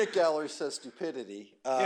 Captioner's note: laughter